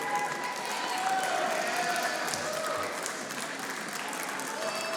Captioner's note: audience applauding